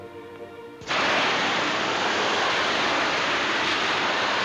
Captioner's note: water rushing